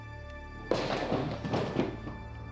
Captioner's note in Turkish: Kapı sesleri